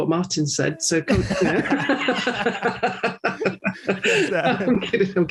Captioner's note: laughter